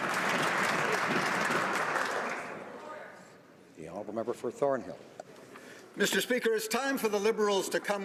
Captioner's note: some Applause